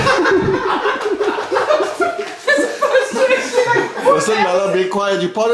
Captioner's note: cheerful laughing